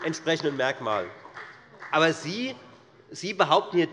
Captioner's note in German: Beifall bei der : Großer Unsinn!